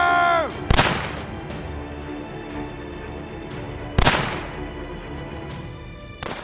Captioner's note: suspenseful music; gun firing